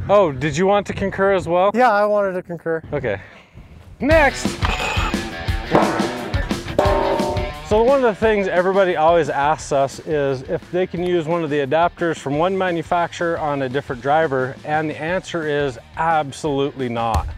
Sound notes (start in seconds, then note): 5.7 energetic rock music; 5.7 post banging; 5.7 metal scrapping